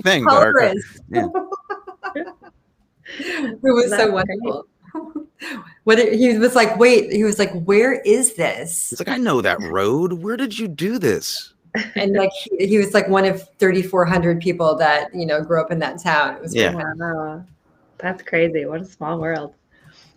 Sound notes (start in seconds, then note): 0.2 laughing; 5.3 laughing